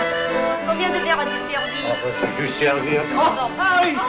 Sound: French

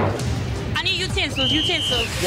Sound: whistle

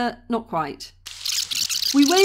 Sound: tape rewind

